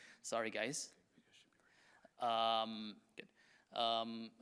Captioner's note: technician whispering